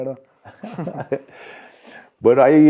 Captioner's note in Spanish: Risas